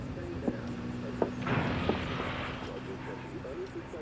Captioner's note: crashing sound